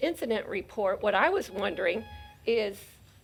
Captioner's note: alarm beeping